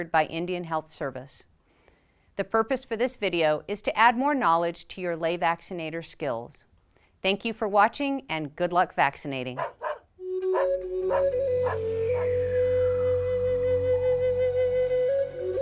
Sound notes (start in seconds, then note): 9.6 dog barking